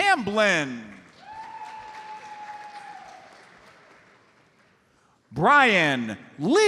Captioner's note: audience applauds